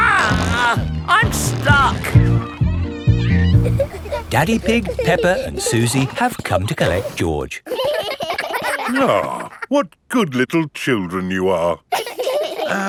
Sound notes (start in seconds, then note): 7.6 giggling